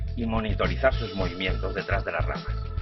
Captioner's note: none